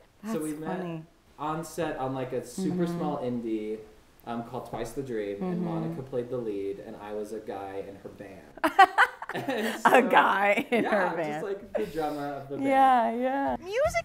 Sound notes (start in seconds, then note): 8.6 laughs